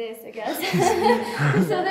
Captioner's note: laughter